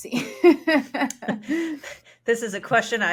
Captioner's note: participants laughing in unison